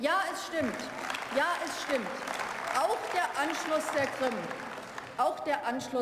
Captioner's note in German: Beifall